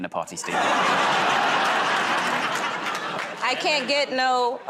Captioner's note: laughter